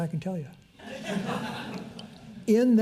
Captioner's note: audience laughs